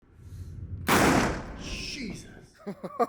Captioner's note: gun fires